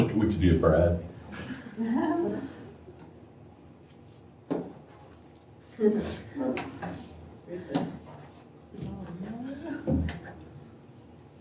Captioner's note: laughter